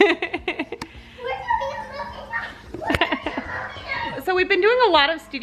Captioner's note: laughs; screams